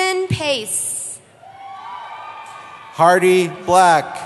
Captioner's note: cheering